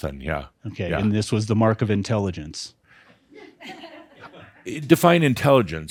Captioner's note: a few chuckles